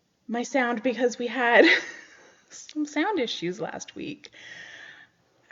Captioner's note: laughs